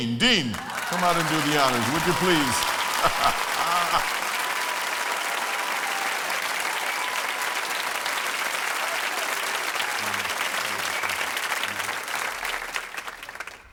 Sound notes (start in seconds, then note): 4.3 applause